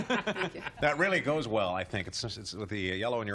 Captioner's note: laughs